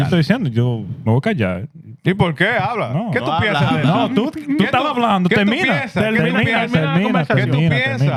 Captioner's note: speaking Spanish